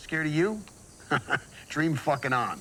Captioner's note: chuckles